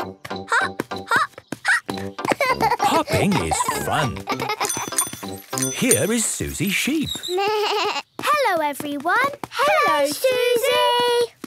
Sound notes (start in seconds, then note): 4.6 bike bell; 7.0 bleating